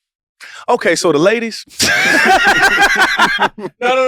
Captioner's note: group laughs